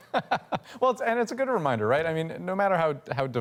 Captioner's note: laughter